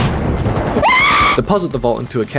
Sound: an Explosion then scream followed by gunshots

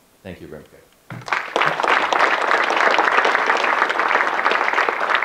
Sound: audience clapping

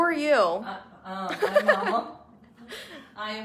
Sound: laughs

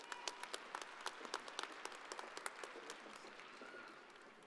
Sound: audience applauding

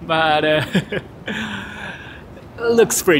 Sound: chuckles

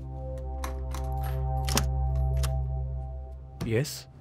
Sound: door opens

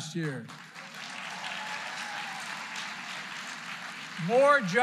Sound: applause

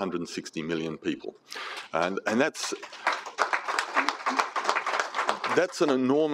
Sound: applause

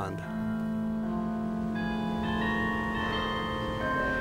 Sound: church bells chiming

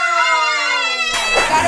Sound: splash

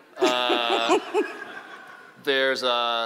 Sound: laughing

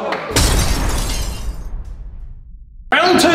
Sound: lads laughing and cheering; glass shattering

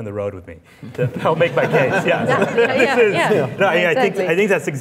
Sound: laughing

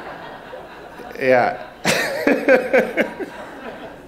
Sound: audience laughs; laughing

